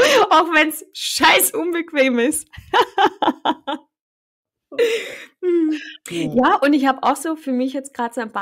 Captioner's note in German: lachen; lachen